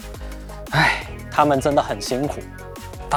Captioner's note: sigh